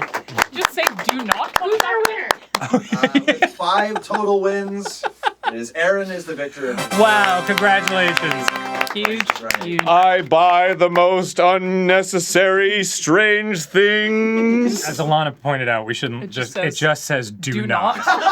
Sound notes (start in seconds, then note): 2.6 laugh; 6.6 applause contines; 6.7 applause